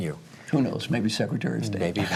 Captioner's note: laugh